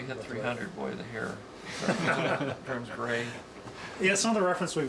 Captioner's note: laughing